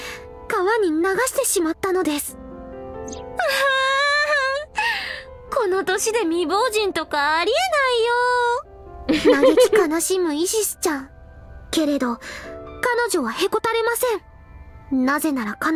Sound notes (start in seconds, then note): 9.1 chuckles